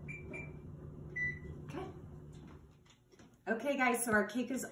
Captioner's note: door bangs, oven beeps